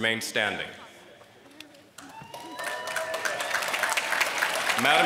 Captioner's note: applause